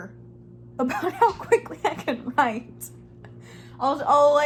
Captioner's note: laughs